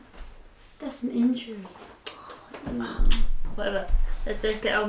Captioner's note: kissing